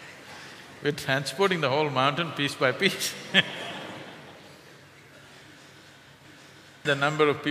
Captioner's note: laughter; 笑聲